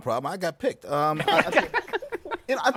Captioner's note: laughs